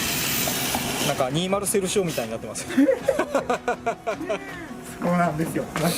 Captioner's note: laughs